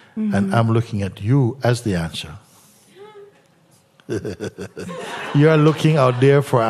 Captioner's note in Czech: smích